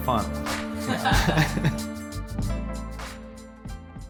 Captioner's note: laughs